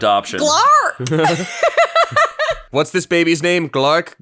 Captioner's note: laughs